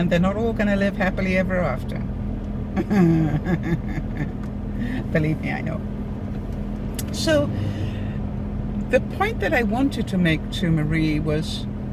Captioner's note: laughter